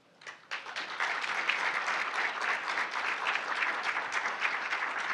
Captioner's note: audience applauding